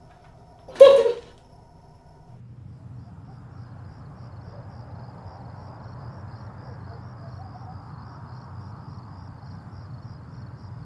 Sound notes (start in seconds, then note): 0.9 Tina sobs; 2.9 crickets chirping; 2.9 distant dog barks